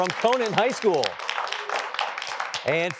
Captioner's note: applause